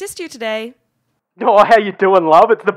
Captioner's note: thick aussie accent